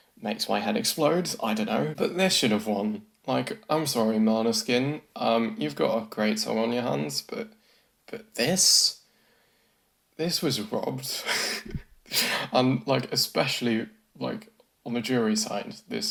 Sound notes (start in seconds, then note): 11.5 laughs